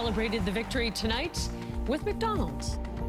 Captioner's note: crowd cheering